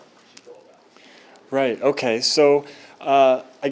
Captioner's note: man speaking